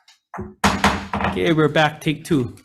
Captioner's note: gavel tapping